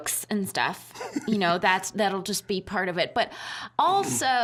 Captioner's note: laughing